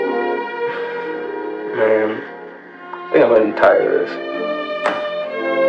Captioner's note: sighs